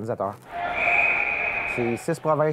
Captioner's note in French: sifflet